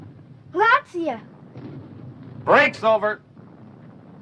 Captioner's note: boy speaking foreign language